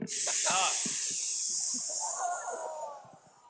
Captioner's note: hissing